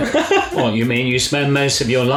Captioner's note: Jack laughs